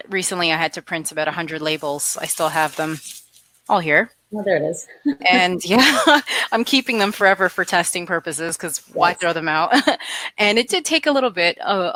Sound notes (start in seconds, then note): 5.0 laughs; 9.6 laughs